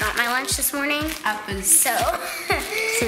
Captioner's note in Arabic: يضحك